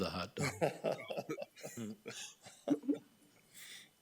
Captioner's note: laughing